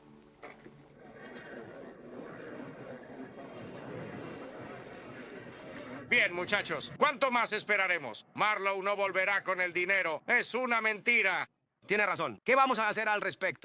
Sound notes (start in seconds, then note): 1.2 men chattering